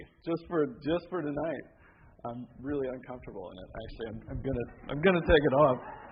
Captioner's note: laughter